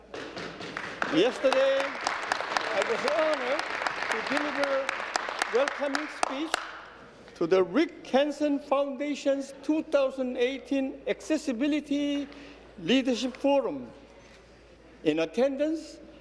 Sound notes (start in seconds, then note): 6.8 applause